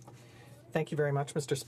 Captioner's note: speaking French